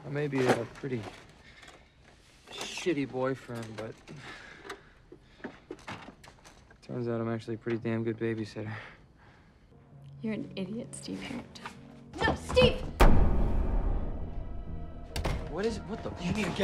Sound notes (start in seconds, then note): 12.8 booms